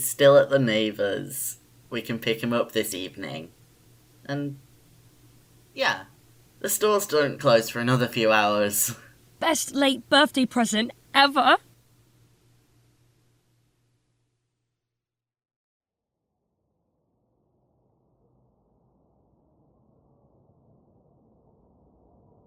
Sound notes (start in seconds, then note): 16.3 ambiance fades